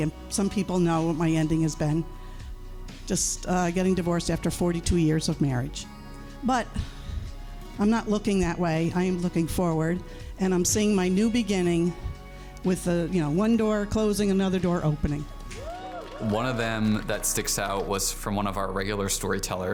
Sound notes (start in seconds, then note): 15.5 crowd cheers